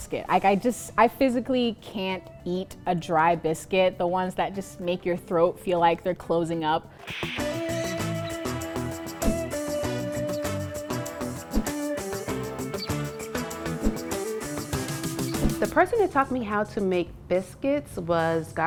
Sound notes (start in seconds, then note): 7.2 upbeat music continues; 9.2 transition swooshes